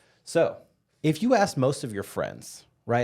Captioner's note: none